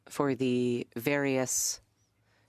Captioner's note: speaking French